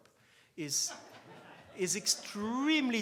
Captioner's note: laughs